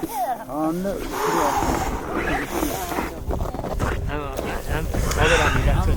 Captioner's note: men speaking in foreign language